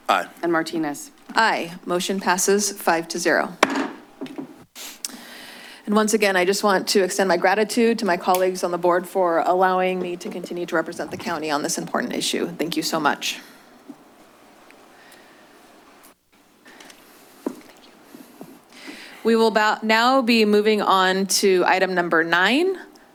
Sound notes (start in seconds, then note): 3.6 loud bang; 13.5 silence